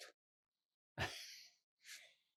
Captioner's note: laughing